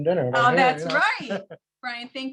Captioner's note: laughs